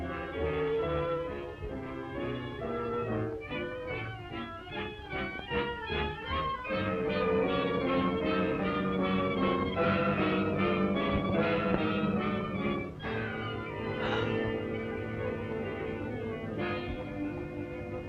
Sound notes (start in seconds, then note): 13.8 gasps